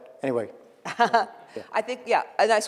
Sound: laughs

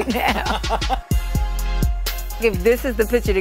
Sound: laugh

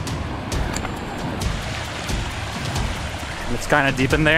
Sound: water rushing

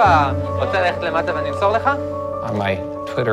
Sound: indistinct chatter

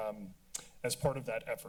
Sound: tongue clicking

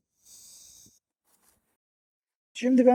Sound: zzzzzzzzzzzzzzzıııııııııı we zooming sound

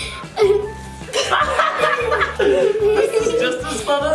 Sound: dad laughs

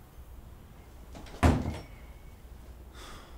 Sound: bathroom door closes

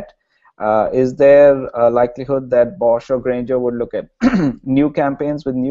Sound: cough

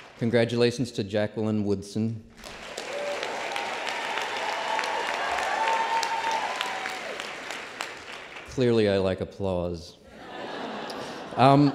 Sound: applause; laughter

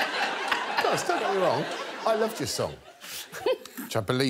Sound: all laughing

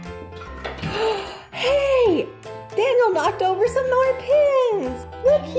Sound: gasp

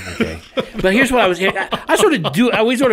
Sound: co-hosts laugh; co-hosts laughing

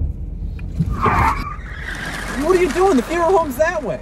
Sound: tires squeal

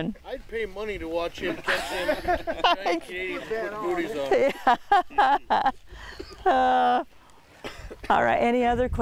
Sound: laughing

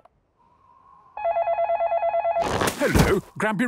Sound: dial tones beeping; phone ringing

